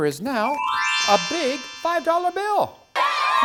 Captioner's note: magic tinkle sound; cheering!